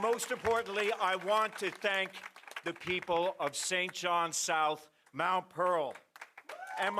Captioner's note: applause & Cheering